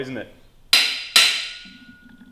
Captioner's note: metallic banging